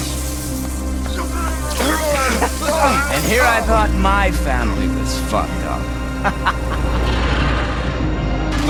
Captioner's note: laughs